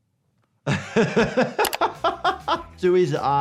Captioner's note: laughs